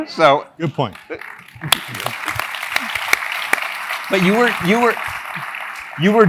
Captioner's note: laugh